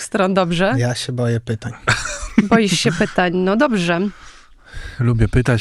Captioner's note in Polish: śmiech